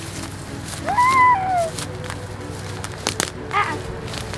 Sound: yelping

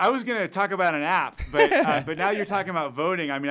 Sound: laughing

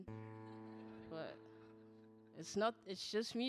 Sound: audience laughing

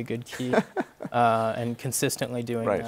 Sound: laughs

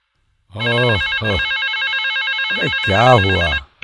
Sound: phone rings

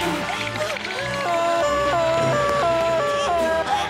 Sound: siren blaring

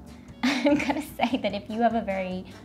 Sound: laughing

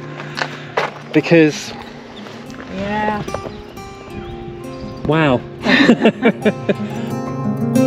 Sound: laughter

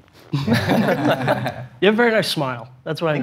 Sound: all laughing

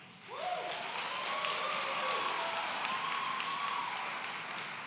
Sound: audience cheering

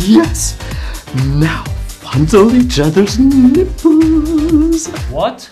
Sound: singsong

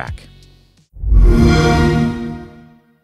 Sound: Xbox Sound

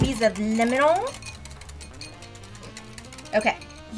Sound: whisk clinking

